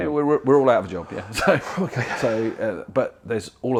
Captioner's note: laughter